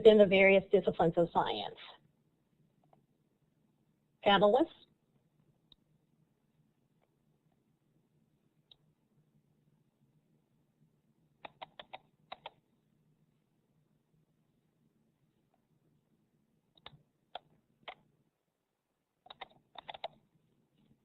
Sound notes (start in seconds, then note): 5.6 silence